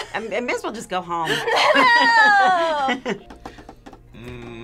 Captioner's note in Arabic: يضحك